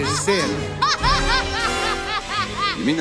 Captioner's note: Sid laughs maniacally